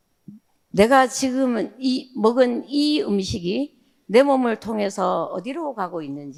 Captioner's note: speaking in foreign language